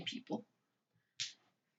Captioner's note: snap